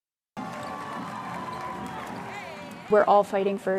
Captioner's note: spectators cheering